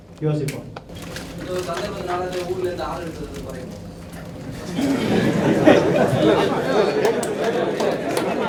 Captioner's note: participants laugh